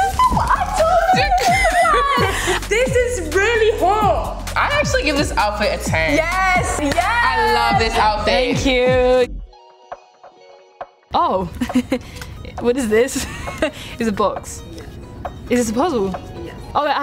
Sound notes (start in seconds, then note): 11.6 giggle; 13.6 laughs